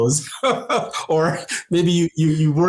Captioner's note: laughing